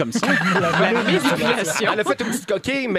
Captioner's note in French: rires